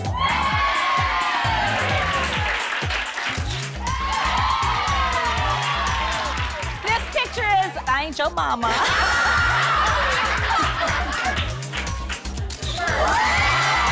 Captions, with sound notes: - This picture is "I ain't yo momma." (crowd exclaiming)